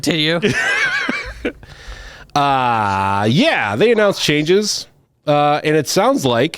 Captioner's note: laughs